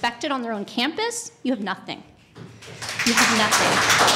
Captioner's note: applause